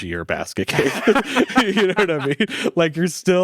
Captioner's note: laughs